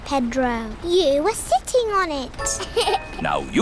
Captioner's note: laughs